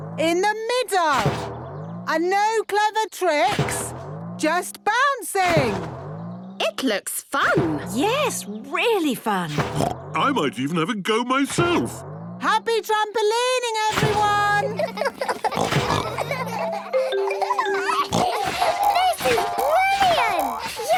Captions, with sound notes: - Today is the Mummies' Fire Station Practice day. in the middle! - Today is the Mummies' Fire Station Practice day. And no clever tricks, Are you ready for action? just bouncing. - Yes, Miss Rabbit! - It looks fun! - Yes, really fun! - Mummy? Can we stay and watch you practice? (snorts) - I might even have a go myself! - Oh, there won't be much to see, Peppa. Snort! - Happy trampolining, everyone! (all laughing) - Daddy Pig! (giggles, snorts) - This is brilliant! We do proper fire service training here!